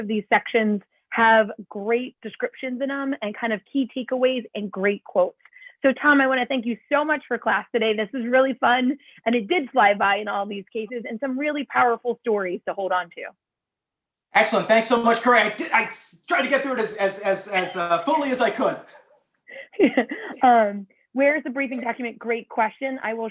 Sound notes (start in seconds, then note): 19.6 laughter